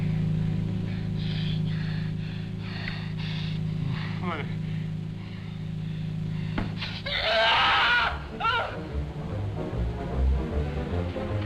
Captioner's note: panting; screams